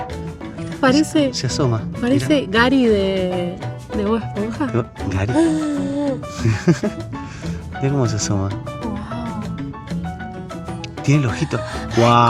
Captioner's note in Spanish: risas